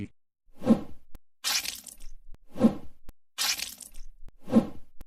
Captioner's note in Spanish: ruidos de zillones y salpicaduras